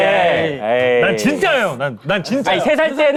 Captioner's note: frustrated